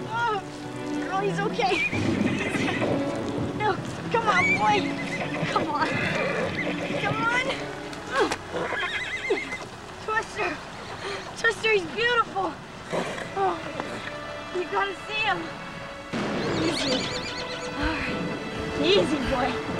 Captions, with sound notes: OH...GIRL, HE'S OK. NO. COME ON, BOY. COME ON...COME ON. TWISTER! TWISTER, HE'S BEAUTIFUL. YOU GOT TO SEE HIM. [ THUNDER BOOMING ] EASY, BOY...